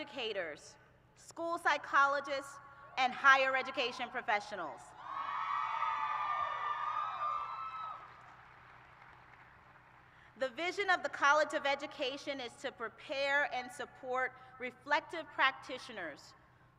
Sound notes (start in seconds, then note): 7.2 cheers